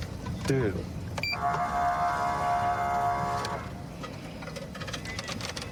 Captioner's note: horn blaring